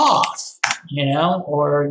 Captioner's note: keyboard clicking